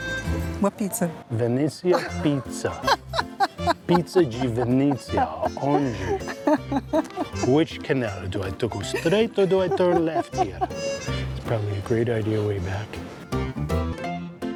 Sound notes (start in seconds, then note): 3.1 laughs; 5.5 in Italian